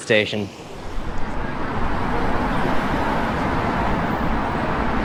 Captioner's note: ♩Traffic Ambience♩